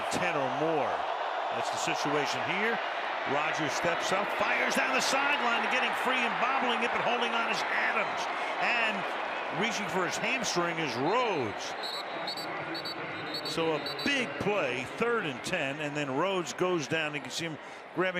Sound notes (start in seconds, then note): 11.8 whistle